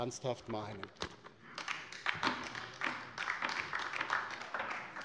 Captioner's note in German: Beifall bei der LINKEN